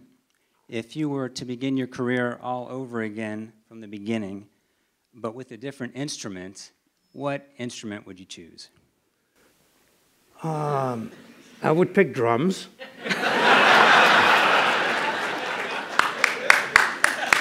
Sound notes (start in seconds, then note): 10.0 laughter